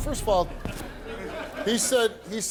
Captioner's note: audience chuckles